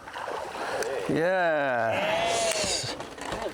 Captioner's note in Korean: 환호